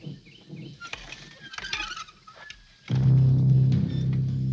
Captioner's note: gate creaks